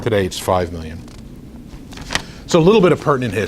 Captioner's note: rustles papers